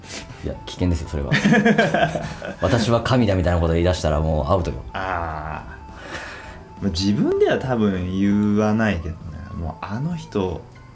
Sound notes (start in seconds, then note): 1.3 laughs